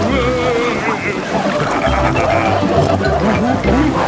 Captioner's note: laughing, snorting